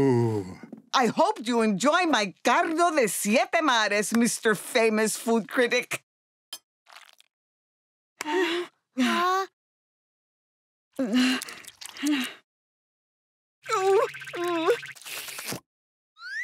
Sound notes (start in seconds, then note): 8.1 groaning; 13.2 groaning